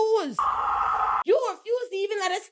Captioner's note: screaming